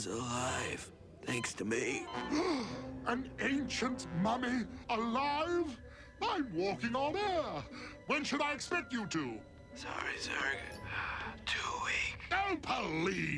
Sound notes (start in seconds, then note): 2.2 gasps